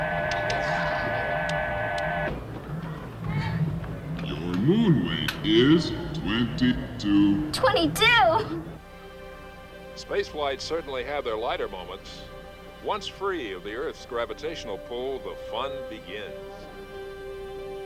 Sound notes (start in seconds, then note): 4.9 digital Voice